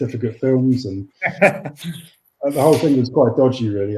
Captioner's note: laughs